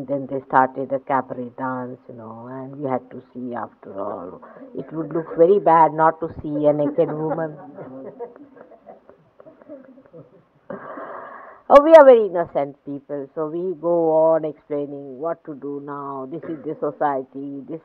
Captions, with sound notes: then they started a cabaret dance, you know, and we had to see, after all it would look very bad not to see a naked woman.”(laughing) “Oh, we are very innocent people!” So we go on explaining, “What to do now, this is the society, this is the fashion, this